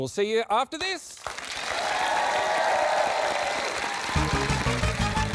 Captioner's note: cheering, applause